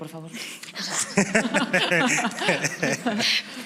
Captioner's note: they laugh